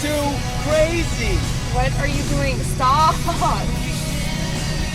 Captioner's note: chuckles